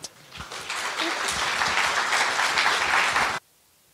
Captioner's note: applause